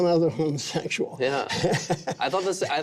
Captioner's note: laughing